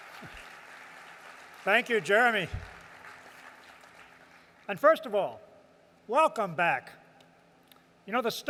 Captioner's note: applause